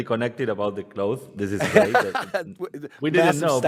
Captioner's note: laughs